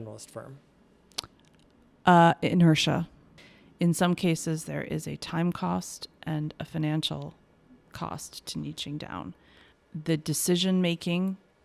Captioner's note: lip smack